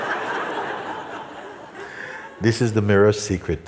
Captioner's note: laughter